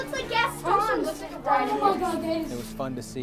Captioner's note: excited chatter